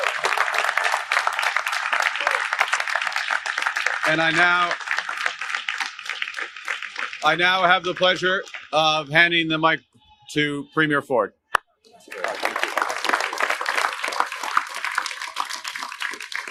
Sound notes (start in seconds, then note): 4.3 applause